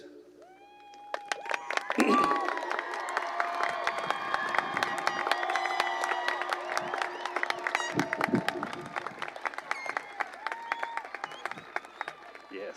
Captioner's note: cheering and applause